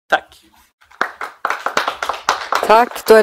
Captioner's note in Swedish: Applåder